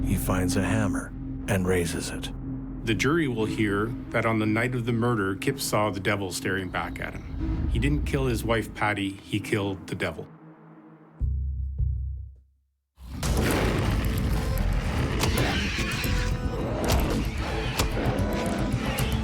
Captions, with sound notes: He finds a hammer and raises it. - The jury will hear that on the night of the murder, Kip saw the devil staring back at him. He didn't kill his wife Patty. He killed the devil. (demon growling) (suspenseful music) (suspenseful music) (demon shrieking) (hammer pounding)